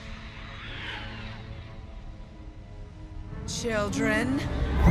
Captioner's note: creatures screeching